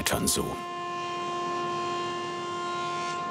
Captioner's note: whirring